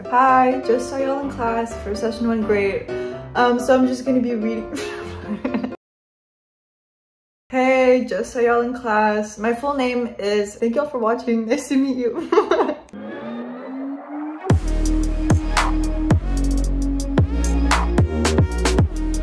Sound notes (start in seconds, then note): 4.5 laughs; 12.5 laughs